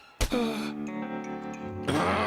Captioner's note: sighs